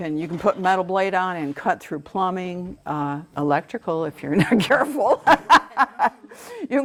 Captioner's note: laughter